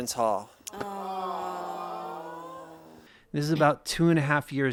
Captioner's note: audience sigh